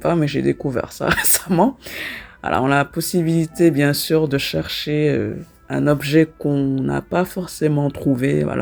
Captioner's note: laughs